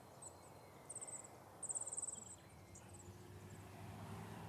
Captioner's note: birds chirping